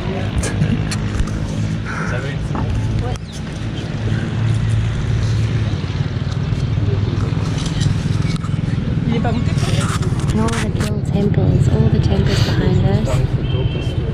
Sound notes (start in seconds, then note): 0.2 engine roaring; 7.7 camera shutter clicking